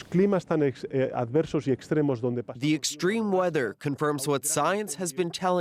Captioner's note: speaking alternate language